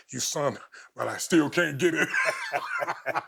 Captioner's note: chuckling